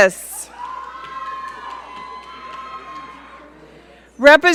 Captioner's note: audience cheering